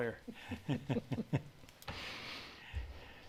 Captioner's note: laughs